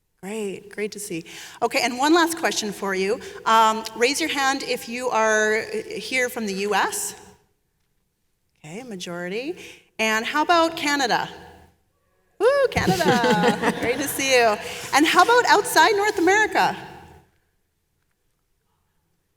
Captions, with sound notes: Great. Great to see. Okay, and one last question for you. Raise your hand if you are here from the US. Okay, majority. And how about Canada? Ooh, Canada. (panelists chuckling) Great to see you. And how about outside North America?